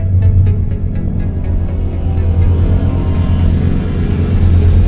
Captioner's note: pensive atmospheric music; spaceship whirring